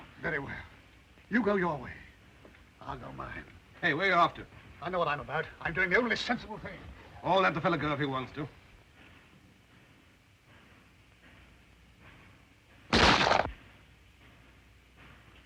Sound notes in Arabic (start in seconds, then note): 12.9 طلق ناري